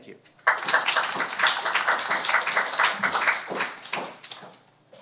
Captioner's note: applause